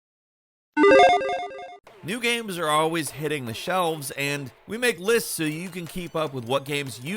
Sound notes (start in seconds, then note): 0.8 logo beeps